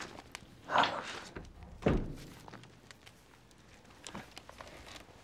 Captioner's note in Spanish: Athelston suspirando